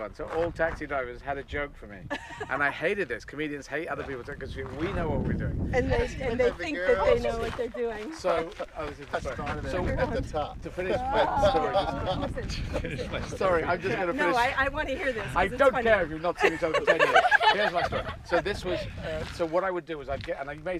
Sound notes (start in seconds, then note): 2.1 woman laughing; 10.6 man laughing; 16.3 laughing